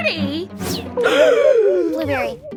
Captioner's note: Blueberry gasping